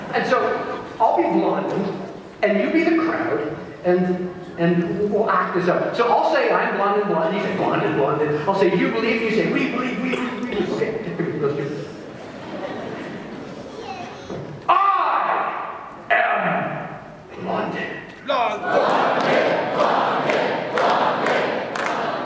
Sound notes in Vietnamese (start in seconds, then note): 18.3 Đám đông đáp lời